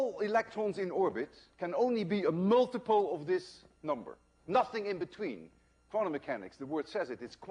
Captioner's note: none